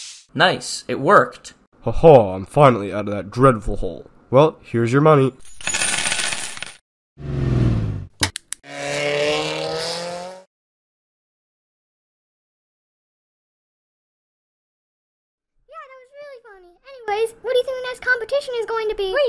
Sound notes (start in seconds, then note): 6.9 car breaks; 7.2 car starts and drive's away